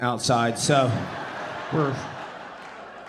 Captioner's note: audience laughing